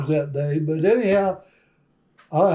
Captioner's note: laughs